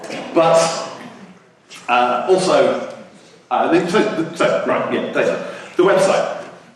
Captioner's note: speaks gibberish